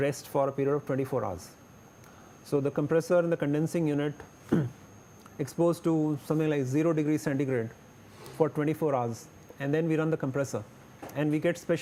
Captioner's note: low voltage